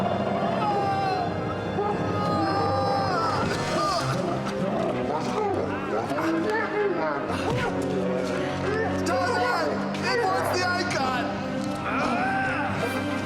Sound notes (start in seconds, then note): 0.1 yelling; 3.9 grunting and struggling; 11.8 grunting